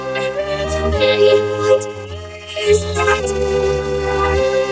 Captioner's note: Kaufo growls